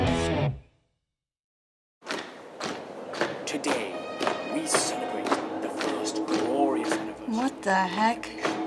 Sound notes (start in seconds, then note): 3.5 voice-over